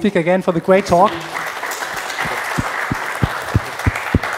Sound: applause

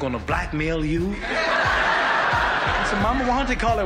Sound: audience laughs

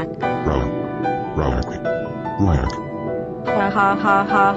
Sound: low growling

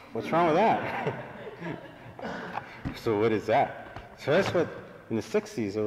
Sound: laughter

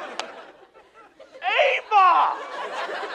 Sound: slap

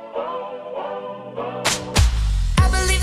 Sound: upbeat music; hands clapping

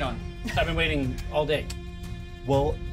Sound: speaker chuckles

